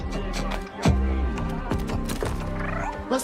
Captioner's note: alien bar chatter